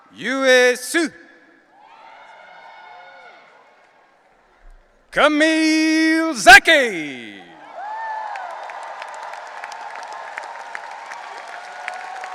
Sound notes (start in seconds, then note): 0.0 audience cheering; 1.8 audience cheering; 7.5 audience cheering and applauding